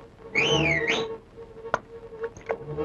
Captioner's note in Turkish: Islık sesi